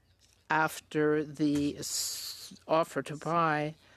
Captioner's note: speaking French